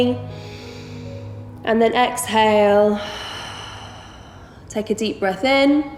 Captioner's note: heavy breathing